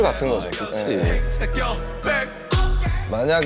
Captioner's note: haha